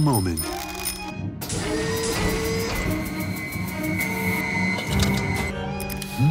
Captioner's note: machinery activates